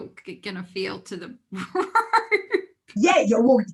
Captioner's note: laughs